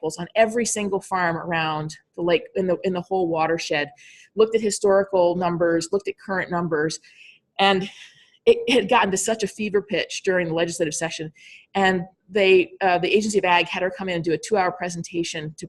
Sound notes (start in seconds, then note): none